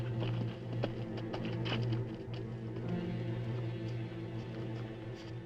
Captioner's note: dramatic music; horse hooves clopping; dramatic music